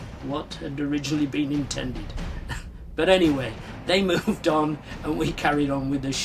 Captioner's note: scoffs